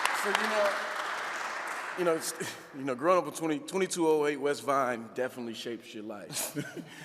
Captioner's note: audience clapping